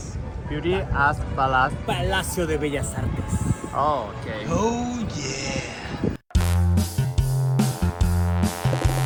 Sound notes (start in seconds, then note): 3.4 Spanish